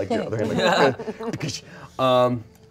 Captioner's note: everyone laughs